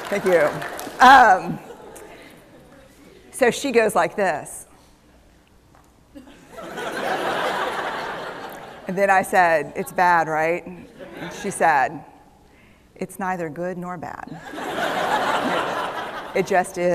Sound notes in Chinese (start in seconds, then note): 6.2 笑聲